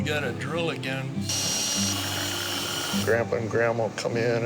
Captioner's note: drill whirs